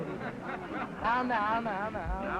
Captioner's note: crowd ambience